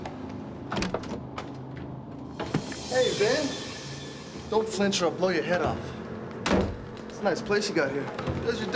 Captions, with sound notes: Hey, Ben. Don't flinch, or I'll blow your head off. (door slamming) It's a nice place you got here.